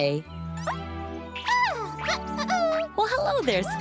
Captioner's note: caterpillar noises